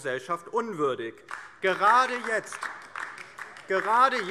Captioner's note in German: Beifall